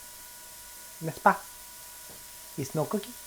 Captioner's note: speaking in foreign language